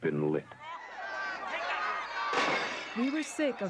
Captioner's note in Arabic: الناس يصرخون